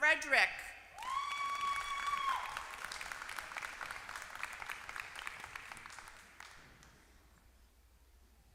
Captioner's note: applause